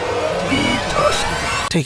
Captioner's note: distant screaming; buzzer